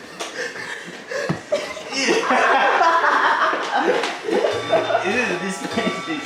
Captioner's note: everybody laughing